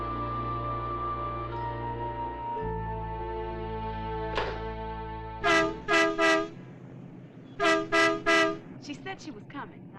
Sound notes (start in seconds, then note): 5.4 car horn honking